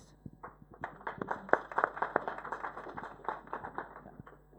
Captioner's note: applause